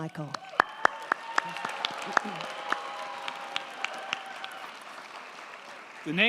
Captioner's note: crowd clapping; crowd cheering